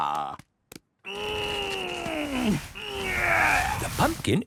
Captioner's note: straining